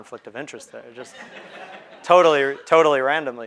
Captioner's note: crowd laughing